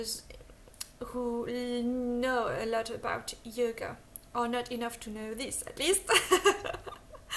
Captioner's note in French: haha